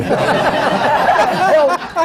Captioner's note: laughter